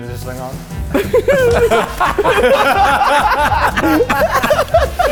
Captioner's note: laughing